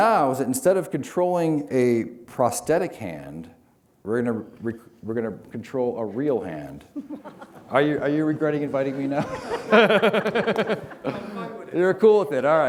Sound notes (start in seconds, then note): 9.9 laughter